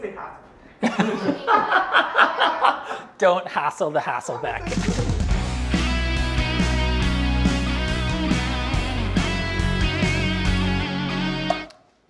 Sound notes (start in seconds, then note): 0.8 everyone laughs